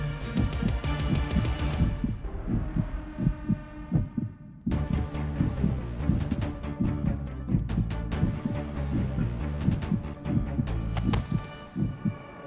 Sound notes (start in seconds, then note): 0.1 heart beating rapidly; 10.7 heart beating rapidly